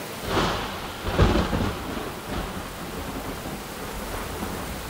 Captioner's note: Thunder Rumbling